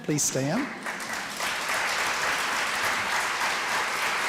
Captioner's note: applause